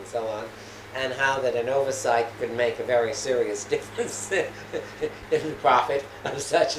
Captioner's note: laughs